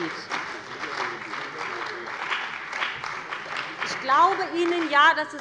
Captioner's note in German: Beifall bei dem BÜNDNIS 90/DIE GRÜNEN und der CDU